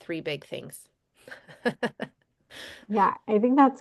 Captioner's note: laughter